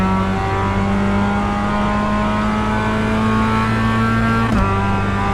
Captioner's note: engine revving